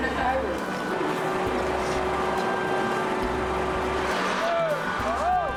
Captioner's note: talking